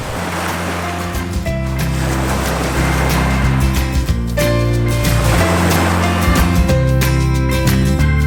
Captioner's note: waves rolling in; gentle guitar music